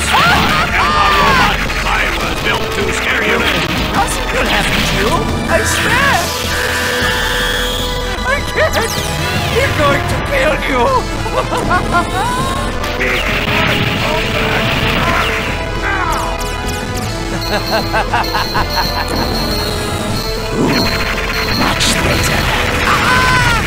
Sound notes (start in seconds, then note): 6.1 breathless laughter; 11.2 more laughter; 17.1 laugh